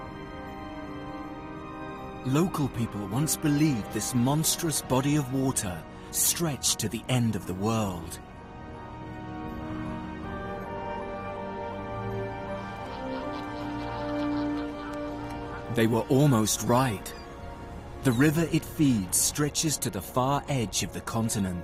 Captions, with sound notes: Local people once believed this monstrous body of water stretched to the end of the world. (birds squawking) (dramatic music continues) They were almost right. The river it feeds stretches to the far edge of the continent.